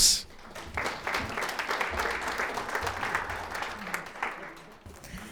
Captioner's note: audience applauding